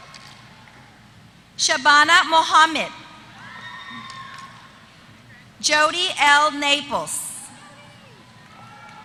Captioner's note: applause